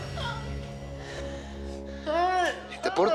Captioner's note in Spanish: sollozos